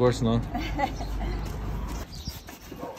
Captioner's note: chuckle